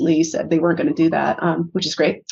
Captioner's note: none